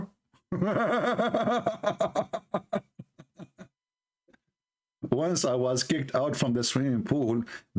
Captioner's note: Ketawa